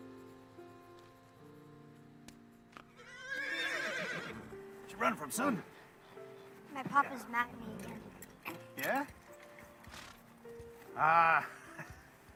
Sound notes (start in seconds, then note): 5.0 horse whinnies